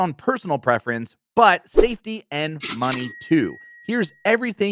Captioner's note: register dings